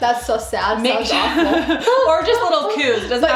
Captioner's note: both laugh